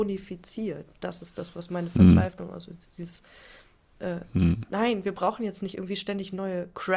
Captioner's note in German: räuspern